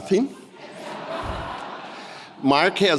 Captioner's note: audience laughing